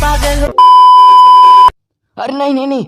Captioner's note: beep